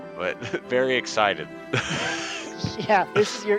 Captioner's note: laughs in love